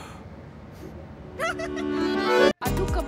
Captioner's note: Woman laughs